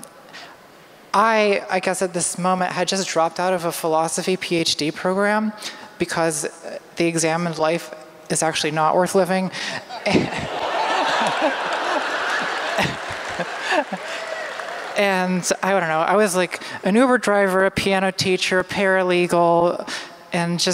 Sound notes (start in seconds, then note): 9.9 laughter